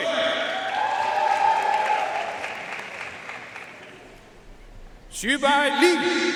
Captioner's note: audience cheering and applauding